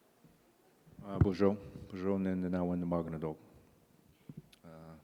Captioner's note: in Indigenous language; in English